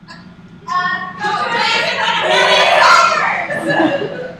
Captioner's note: frantic advertising in unison